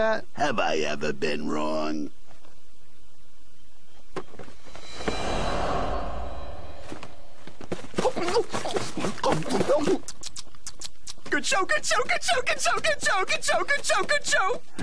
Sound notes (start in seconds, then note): 8.0 nom nom nom nom nom nom